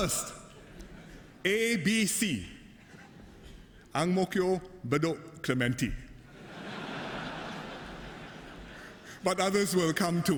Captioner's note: laughter